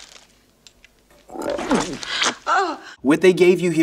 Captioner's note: Brundlefly belches; woman groans